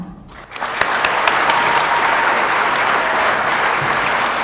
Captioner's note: audience applauding